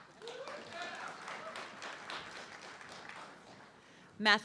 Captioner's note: audience clapping